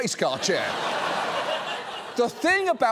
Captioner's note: audience laughs